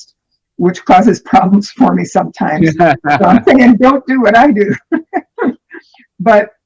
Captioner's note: laughter